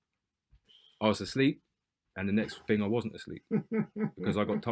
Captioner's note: laughter